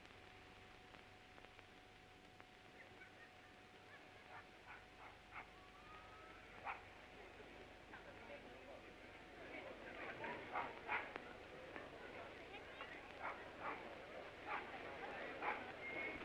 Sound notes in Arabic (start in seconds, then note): 4.4 نباح الكلب; 7.9 ثرثرة خافتة